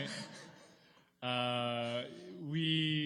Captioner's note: laughter